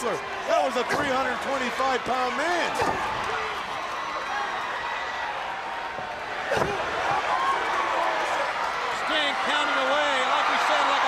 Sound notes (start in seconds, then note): 2.2 crowd cheering